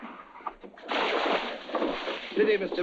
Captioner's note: water splashing